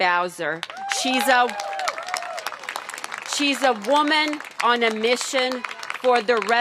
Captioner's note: cheers and applause